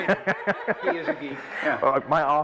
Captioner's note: laughter